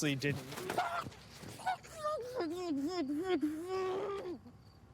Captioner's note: Darren screaming